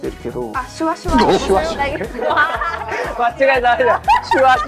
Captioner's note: laughing